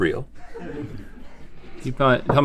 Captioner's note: laughing